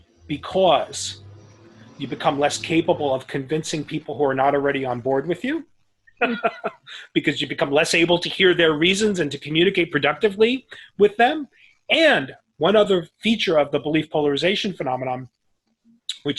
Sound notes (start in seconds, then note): 6.2 laughs